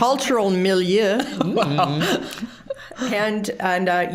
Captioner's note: all laughing